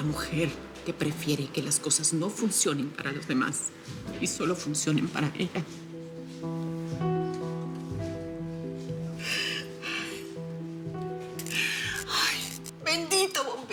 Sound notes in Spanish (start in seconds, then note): 8.8 Solloza; 11.3 Chisporreteo